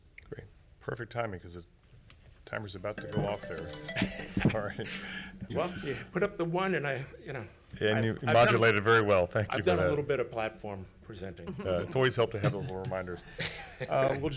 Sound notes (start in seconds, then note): 2.9 timer chiming